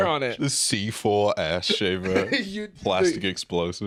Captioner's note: laughs